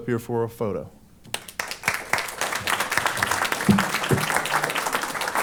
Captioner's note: applause